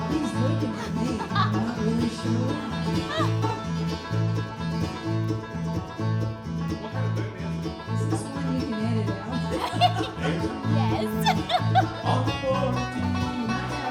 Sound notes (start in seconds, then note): 4.4 laughing; 9.1 laughing